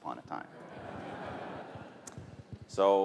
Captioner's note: laughter